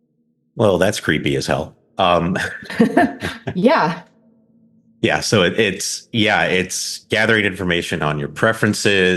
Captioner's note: both laugh